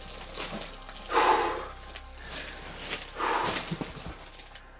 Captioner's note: catches his breath